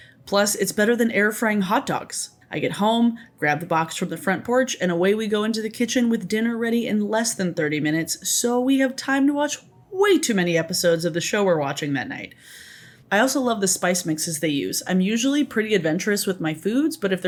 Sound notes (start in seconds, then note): none